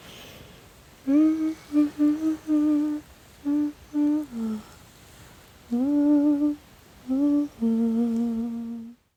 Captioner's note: humming continued